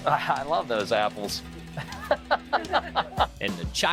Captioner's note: laughs